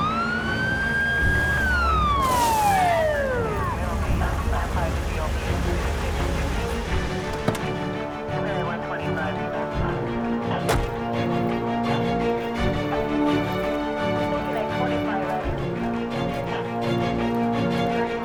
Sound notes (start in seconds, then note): 1.8 tires screech; 2.8 police radio chatter; 6.8 engine shuts off